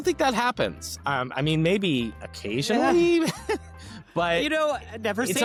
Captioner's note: laughs